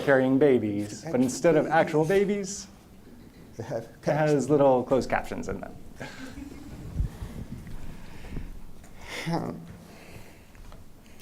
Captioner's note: laughter